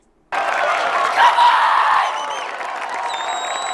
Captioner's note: yelling